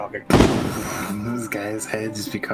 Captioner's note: boom